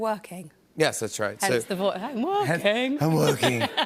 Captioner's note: voice breaking